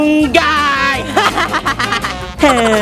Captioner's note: fake laugh; evil laugh